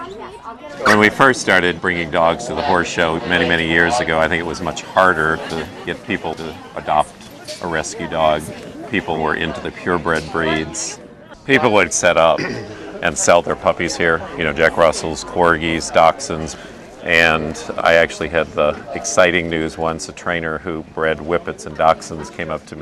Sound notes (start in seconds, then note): 3.1 overlapping chatter